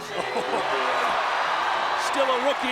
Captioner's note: crowd cheering